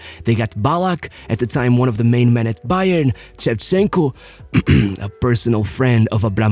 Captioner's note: cough